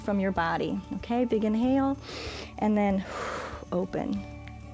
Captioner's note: exhales; inhales